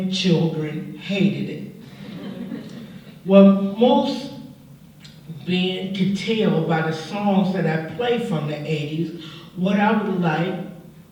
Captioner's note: laughter